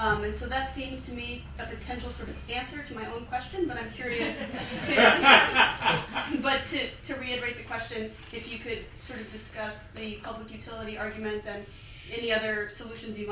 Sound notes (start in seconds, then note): 4.1 laughter